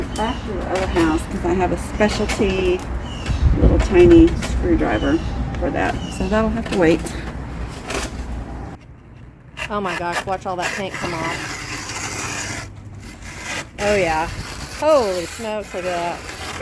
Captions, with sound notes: back to the other house because I have a specialty little tiny screwdriver for that. So that'll have to wait. Oh my gosh watch all that paint come off. [Scraping] Oh yeah Holy smokes look at that.